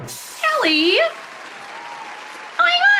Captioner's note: applause